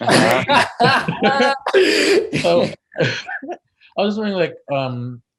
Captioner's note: participants laughs